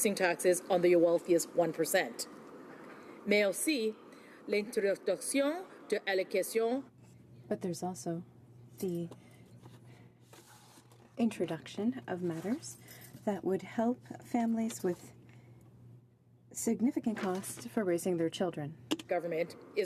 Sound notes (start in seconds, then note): 8.8 speaking in french